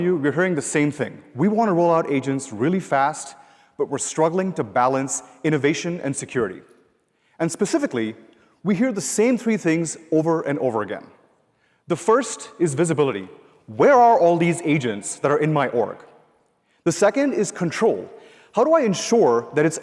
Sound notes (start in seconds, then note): none